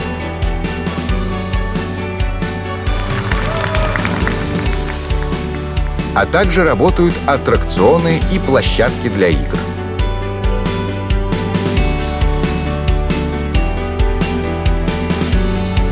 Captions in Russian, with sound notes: *аплодисменты* а также работают аттракционы и площадки для игр.